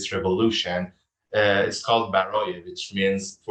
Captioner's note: speaking in foreign language